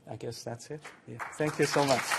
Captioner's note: applause